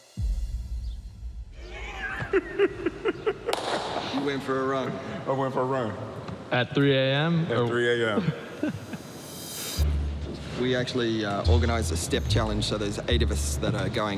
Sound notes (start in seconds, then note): 1.7 laughing